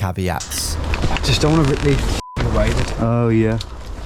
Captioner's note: beep